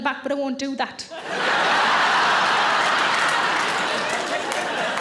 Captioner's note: audience laughing